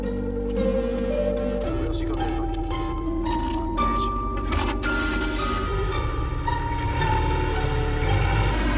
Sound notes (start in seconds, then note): 5.0 engine rumbling